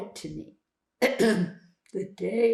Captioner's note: clears throat